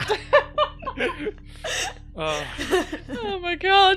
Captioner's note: laughter